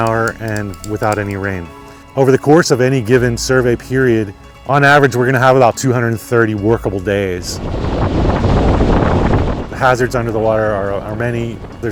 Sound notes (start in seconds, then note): 7.8 wind blowing